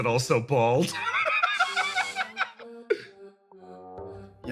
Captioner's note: laugh